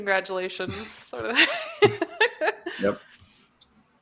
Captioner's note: laughs